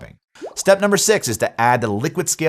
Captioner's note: graphics pop